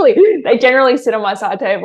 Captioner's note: chuckles